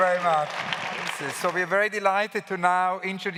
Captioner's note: claps